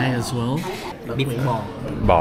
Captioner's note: speaking Vietnamese